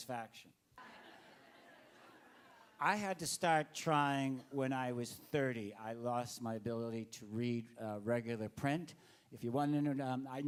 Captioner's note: laughter